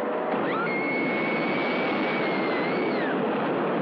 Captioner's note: screaming